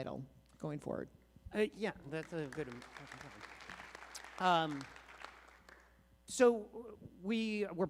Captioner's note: applause